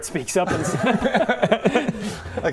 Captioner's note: problem solved laugh